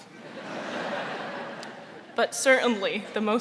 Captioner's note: audience laughing